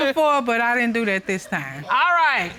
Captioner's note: chuckles